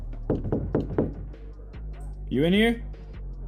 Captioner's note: Alan knocking